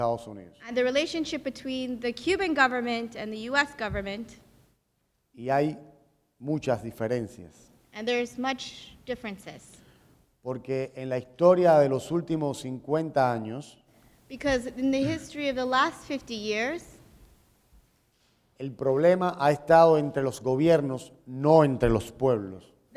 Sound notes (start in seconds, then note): 0.0 speaking in Spanish; 5.3 speaking in Spanish; 9.6 speaking in Spanish; 16.9 speaking in Spanish